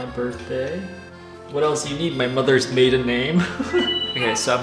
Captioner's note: chuckles